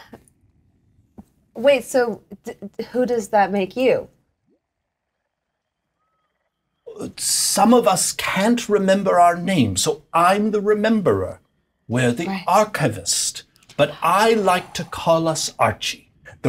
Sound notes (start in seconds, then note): 7.1 bright voice